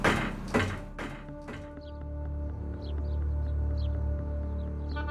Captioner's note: bird chirping